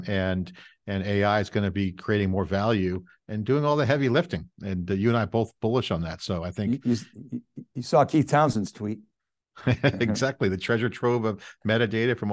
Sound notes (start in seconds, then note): 9.6 chuckling